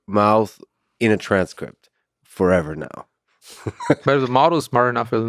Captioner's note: laughs